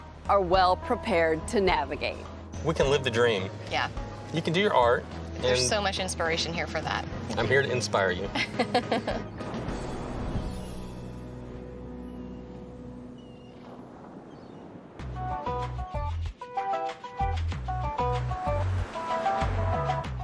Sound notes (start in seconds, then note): 8.4 chuckles; 10.3 relaxing music; 10.3 seagulls squawk; 15.1 upbeat music